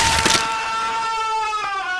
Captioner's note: Crunch